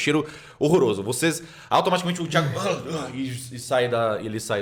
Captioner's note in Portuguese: sons de desagrado